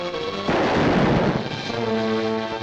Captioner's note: gun fires; suspenseful music